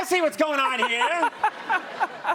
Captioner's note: laughter